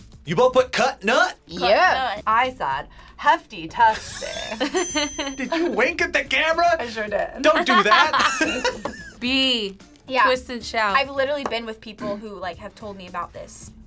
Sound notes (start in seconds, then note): 3.9 both laugh; 7.4 both laugh